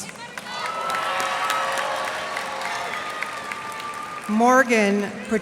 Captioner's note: cheers and applause